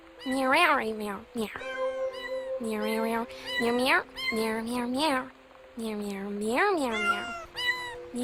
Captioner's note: meowing